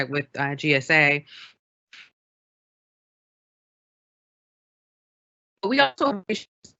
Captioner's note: recording stalled-no audio